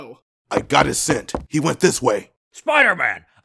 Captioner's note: footsteps